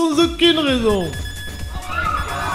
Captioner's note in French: bruit strident